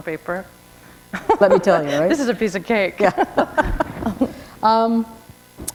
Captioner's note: chuckle